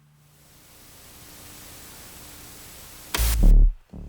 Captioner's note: static; ominous electronic music